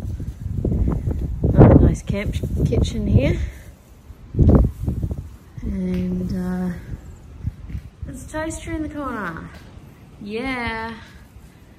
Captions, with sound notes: [continued wind] Another nice camp kitchen here. And uh, there's a toaster in the corner! Yeah!